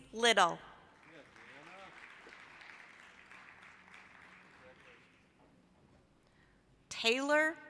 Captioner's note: applause